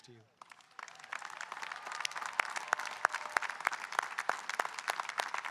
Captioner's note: audience applauding and cheering